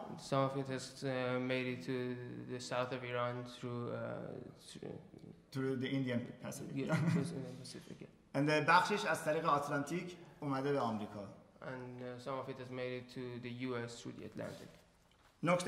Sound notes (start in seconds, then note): 8.3 speaking in farsi; 15.4 speaking in farsi